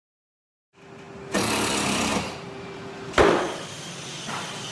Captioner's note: tools whirring